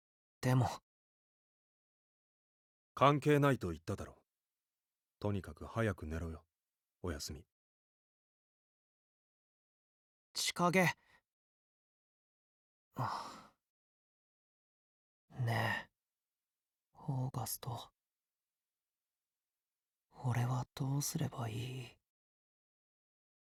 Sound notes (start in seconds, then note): 13.0 sigh